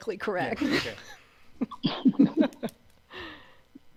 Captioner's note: laughs